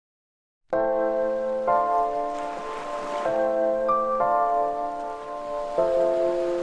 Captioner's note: laid-back music; wind rustling